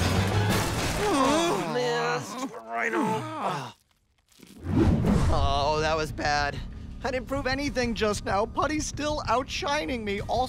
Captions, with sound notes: [groaning] Stupid rhino. Oh, that was bad. I didn't prove anything just now. Putty's still outshining me. Also-